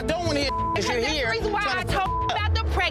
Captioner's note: beep